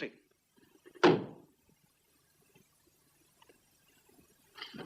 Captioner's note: stamps floor